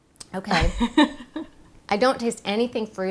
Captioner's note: laughing